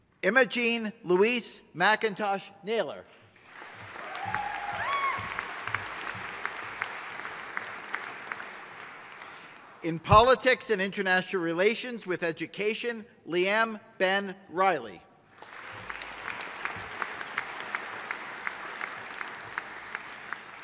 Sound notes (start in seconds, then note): 3.3 audience applauding; 15.3 audience applauding